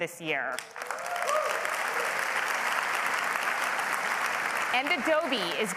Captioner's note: applause